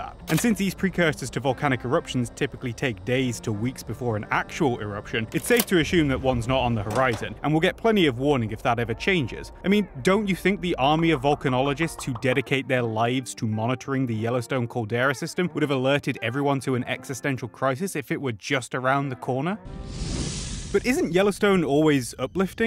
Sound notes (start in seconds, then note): 19.7 flames engulf the screen. Whoosh!